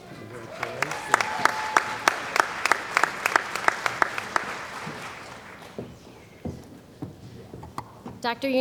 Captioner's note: applause